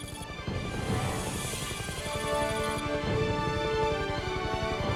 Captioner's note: dramatic music playing; helicopter whirring